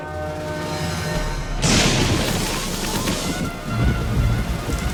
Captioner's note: thunder strike